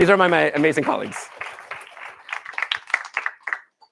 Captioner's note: applause